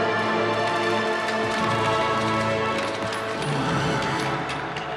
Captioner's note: guns fire rapidly